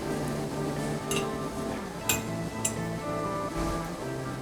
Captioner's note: metal clanging